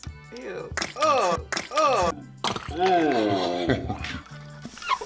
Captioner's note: egg splatting; laughs